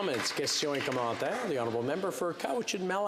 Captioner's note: some applause